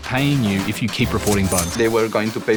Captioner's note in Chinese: 收銀機的聲音